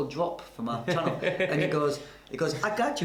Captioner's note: laughs